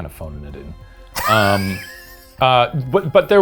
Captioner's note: laughs